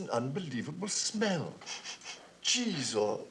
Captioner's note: sniffs